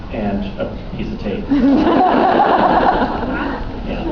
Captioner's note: laughs